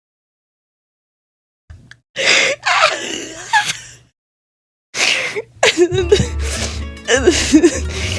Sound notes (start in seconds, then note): 2.6 giggles nefariously